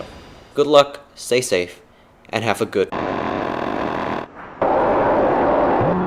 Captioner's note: brrrttt